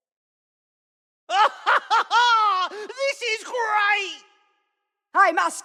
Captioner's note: laugh